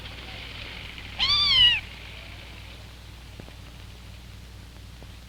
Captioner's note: cat meowing